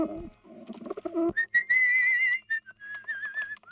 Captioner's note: whistles